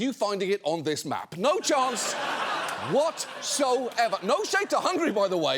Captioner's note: audience laughing